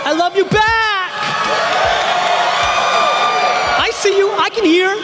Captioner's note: audience cheering